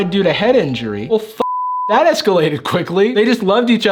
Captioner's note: beep